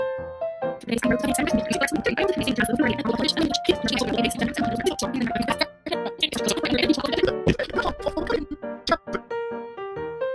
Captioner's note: fast forwarding noises